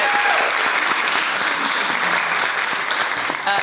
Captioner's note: applause